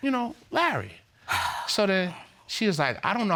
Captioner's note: sighs